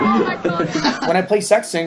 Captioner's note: laughs